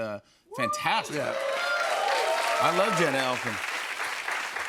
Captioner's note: cheers and applause